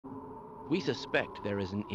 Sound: wind finds ears

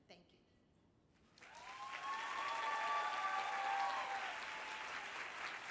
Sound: cheering

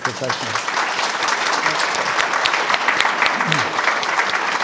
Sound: audience applauding

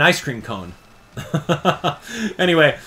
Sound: laughs

